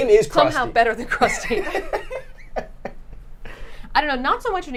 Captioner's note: laughs